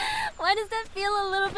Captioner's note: laughs